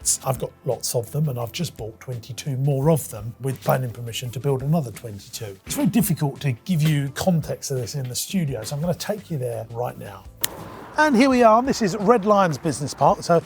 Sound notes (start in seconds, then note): 10.4 snaps fingers